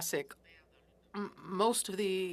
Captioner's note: speaking French